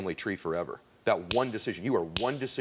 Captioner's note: snaps fingers; snaps fingers